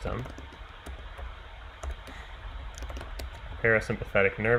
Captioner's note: keyboard clicking